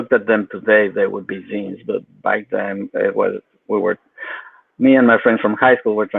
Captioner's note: speaks faintly